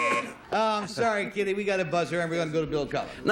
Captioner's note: buzzer